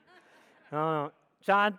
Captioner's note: audience laughs